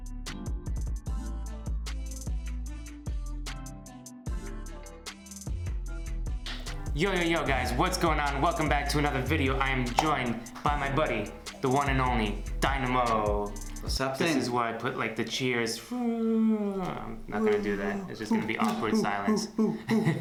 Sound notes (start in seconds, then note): 6.5 claps; 20.0 laughs